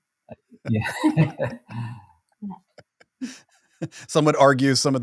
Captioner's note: all laugh